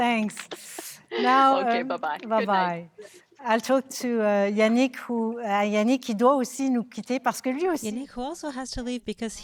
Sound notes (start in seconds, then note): 5.9 speaking French